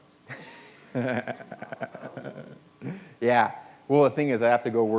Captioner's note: laughs